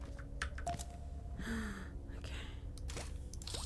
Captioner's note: quietly